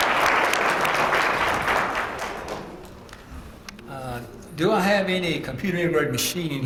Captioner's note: applause